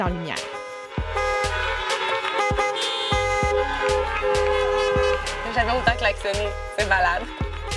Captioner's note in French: klaxons